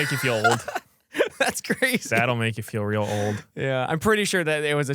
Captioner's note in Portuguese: risos